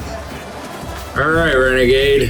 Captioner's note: crowd Noises